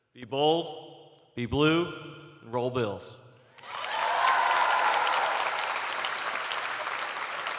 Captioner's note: cheers and applause